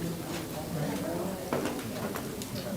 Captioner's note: crowd talking indistinctly